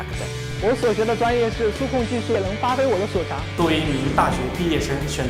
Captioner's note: speaks in foreign language